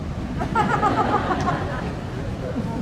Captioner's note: laughing